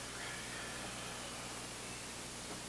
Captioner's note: sighing; both exhaling; both inhaling